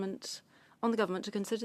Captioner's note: speaking French